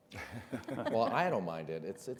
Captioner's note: all laughs